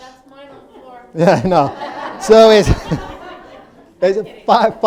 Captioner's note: audience laughing